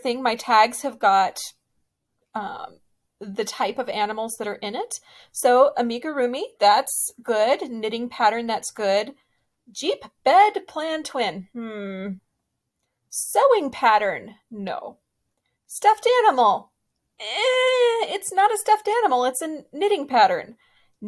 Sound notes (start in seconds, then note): 17.2 yells